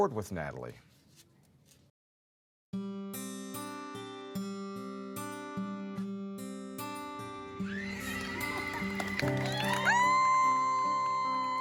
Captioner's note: people screaming and clapping